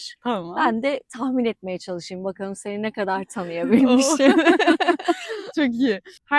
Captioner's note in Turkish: kahkaha